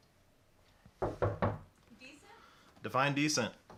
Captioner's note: Kathleen knocks